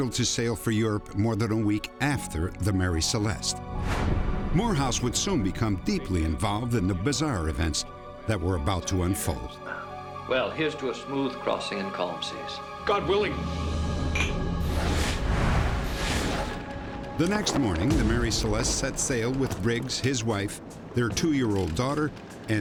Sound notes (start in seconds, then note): 14.1 glasses clicking